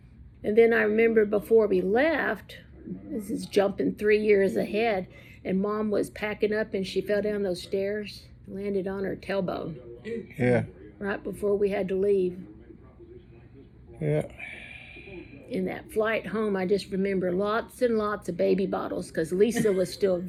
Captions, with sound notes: And then I remember before we left--this is jumpin' 3 years ahead--and Mom was packin' up and she fell down those stairs. Landed on her tailbone. Ooh. Yeah. Right before we had to leave. Yeah. (sighs) And that flight home I just remember lots and lots of baby bottles 'cause Lisa was still